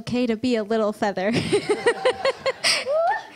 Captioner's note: laughs